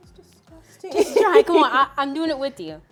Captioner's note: laughs